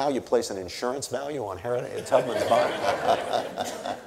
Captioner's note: audience laughing